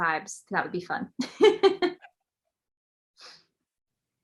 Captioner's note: laughs